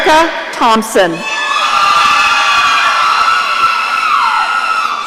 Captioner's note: audience cheering